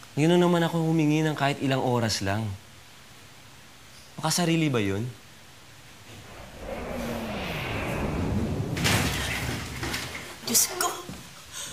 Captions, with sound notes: I just asked for a few hours now... Is that so selfish? [whooshing] [thuds] My god!